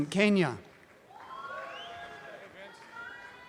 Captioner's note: audience cheering